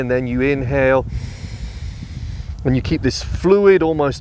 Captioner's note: breathing heavily